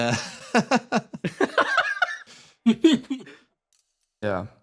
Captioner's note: laughs